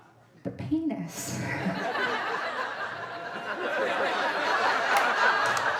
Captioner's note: audience laughing